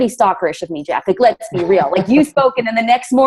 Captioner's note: laughs